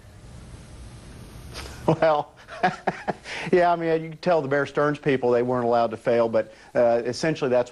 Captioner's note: laughs